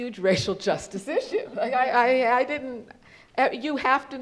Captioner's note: laughs